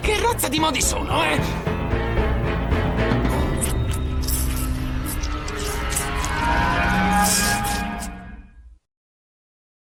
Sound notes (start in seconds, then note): 3.5 leeches squelching